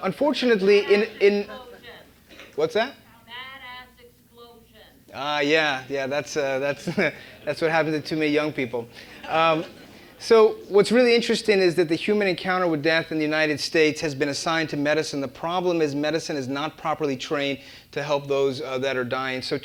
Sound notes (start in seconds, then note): 8.9 laugh